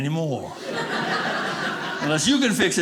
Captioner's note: audience laughing